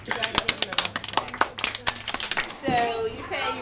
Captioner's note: applause